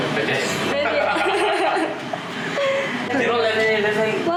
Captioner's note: laughter